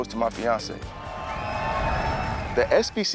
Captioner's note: students cheering